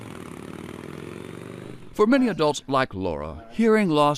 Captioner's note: motorcycle engine revving